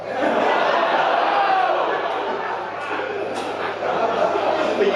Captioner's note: audience laughing